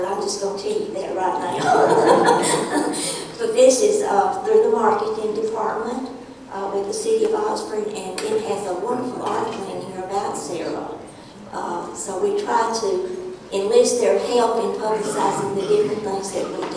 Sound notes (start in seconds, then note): 3.2 laughing